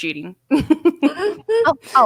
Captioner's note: laughs loudly